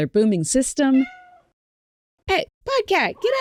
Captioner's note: PODCat cries